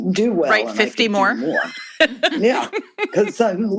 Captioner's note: laughter